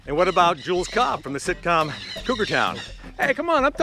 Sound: birds screech

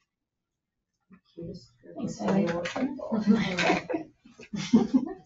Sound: people speak distantly

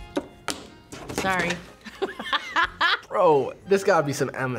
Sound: laughs

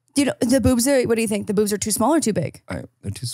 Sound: laughs

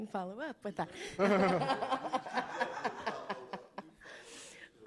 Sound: laughter

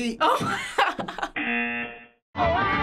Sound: laughing; buzzer

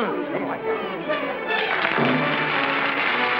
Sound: applause

